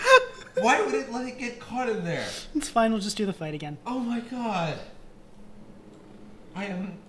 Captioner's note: giggling; giggling